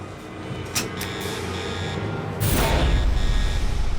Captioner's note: alarm blaring